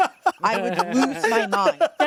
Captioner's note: everyone laughs